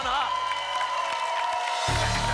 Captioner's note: applause and cheering